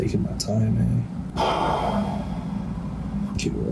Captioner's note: le sigh